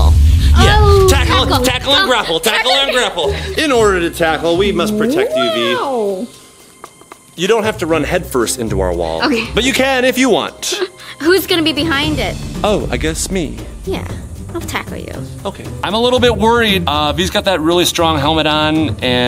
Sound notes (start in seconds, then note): 6.8 knocking